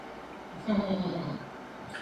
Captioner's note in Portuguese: risos